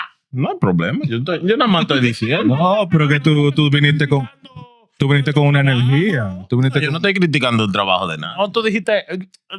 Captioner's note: speaking In Foreign Language